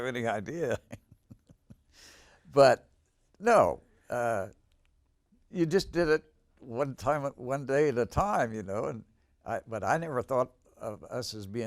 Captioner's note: laughs